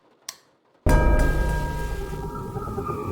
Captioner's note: jumpscare noise; white noise. spooky noises